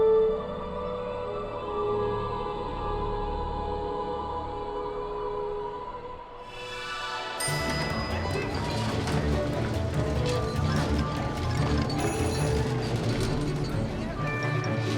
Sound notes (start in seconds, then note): 7.4 elevator dings